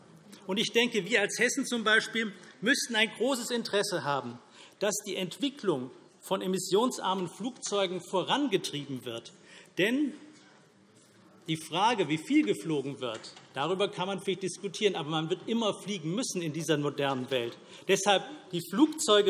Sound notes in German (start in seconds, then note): none